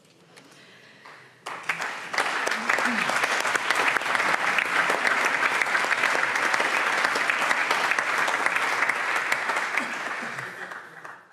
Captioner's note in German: Allgemeiner Beifall